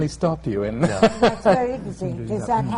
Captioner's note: laughter